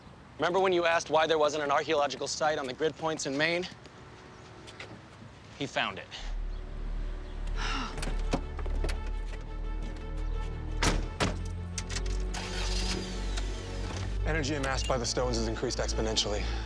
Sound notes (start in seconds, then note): 7.5 sighs; 12.0 engine starts